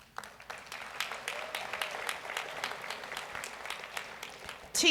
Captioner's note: audience applauds